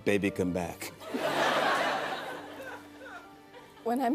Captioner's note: laughter